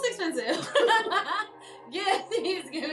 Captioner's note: KJ laughs